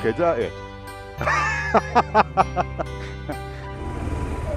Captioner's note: laughing